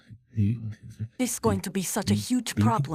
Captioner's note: Mister Freeman gibbering